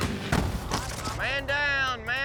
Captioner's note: hard thud